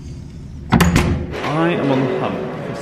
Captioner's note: door thudding